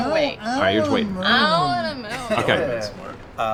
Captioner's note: mocking